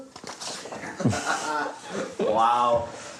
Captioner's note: laughing